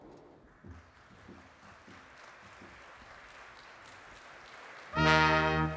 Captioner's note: applause